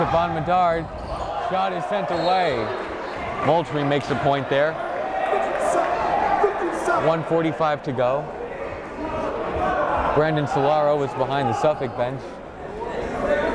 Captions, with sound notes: Stephon Medard, shot is sent away! Moultrie makes a point there, 1:45 to go. (yelling) Brandon Sillaro was behind the Suffolk bench.